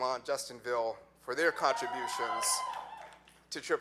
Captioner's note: audience clapping